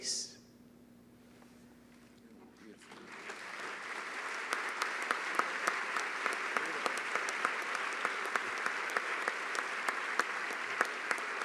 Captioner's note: applause